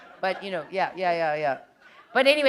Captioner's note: chuckle